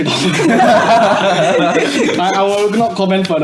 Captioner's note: laughs